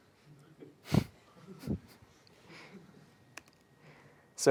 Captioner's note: laugh